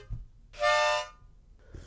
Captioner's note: h0nk; honk